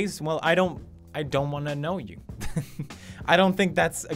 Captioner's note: chuckle